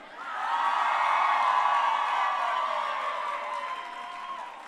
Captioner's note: crowd cheering